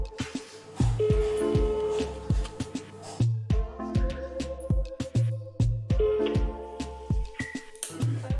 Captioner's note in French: phone rings